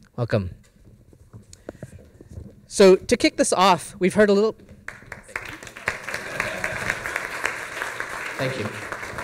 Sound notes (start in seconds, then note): 6.0 audience laughs; 7.0 applause